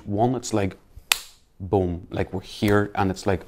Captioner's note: hands slap